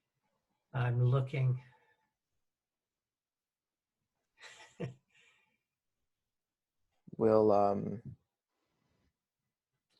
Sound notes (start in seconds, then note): 4.4 chuckles